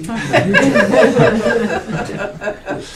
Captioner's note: laughing